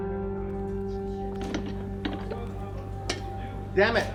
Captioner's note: people chattering